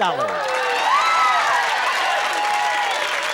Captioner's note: cheering